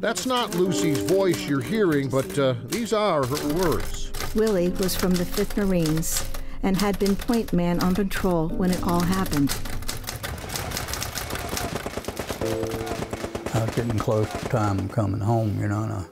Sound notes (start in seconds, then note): 10.0 gunshots firing